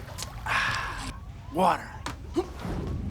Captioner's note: <i> sighs</i>; <i> gasps</i>